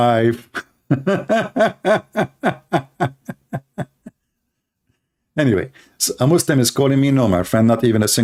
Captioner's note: Ketawa